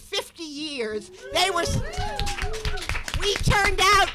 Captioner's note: audience cheering; audience applauding